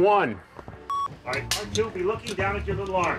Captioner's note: slate clack